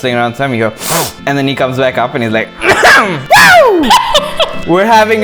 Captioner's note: sniff; cough; laughter